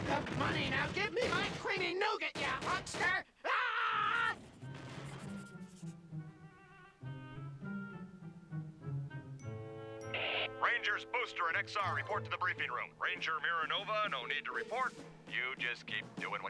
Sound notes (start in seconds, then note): none